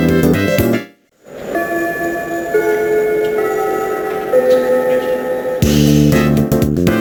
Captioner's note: ding-dong, ding-dong